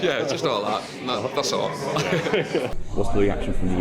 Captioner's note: laughs